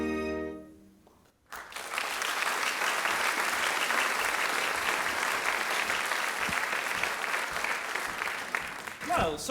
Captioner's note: applause